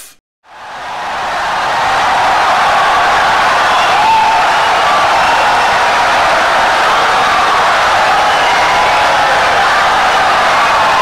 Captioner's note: wild applause and cheering for 17 seconds